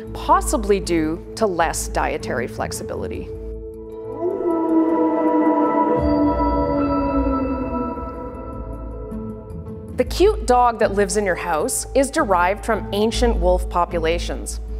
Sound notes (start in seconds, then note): 3.9 wolf calls